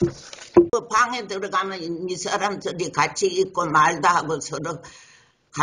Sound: speaks in foreign language

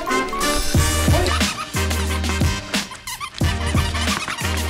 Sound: upbeat music; toy squeaking

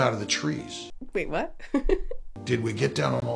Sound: chuckles

